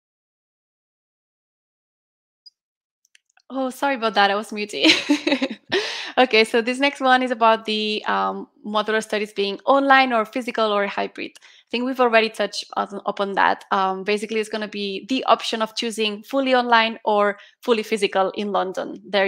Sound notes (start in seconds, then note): 4.8 laughs